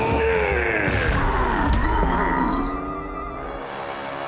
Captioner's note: grunting; roaring